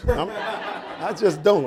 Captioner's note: audience laughing